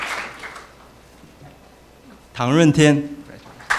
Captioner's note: applause